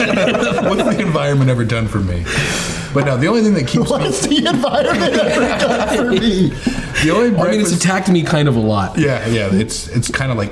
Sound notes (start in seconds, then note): 6.4 all laughing